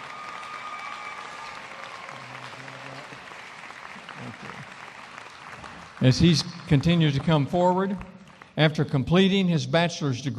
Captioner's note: applause